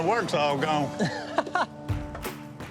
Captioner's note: laughs